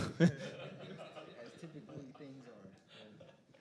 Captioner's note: all laughing